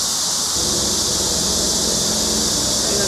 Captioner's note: car passing sound